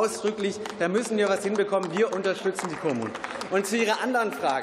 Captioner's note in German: Beifall